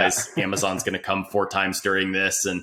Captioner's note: laughs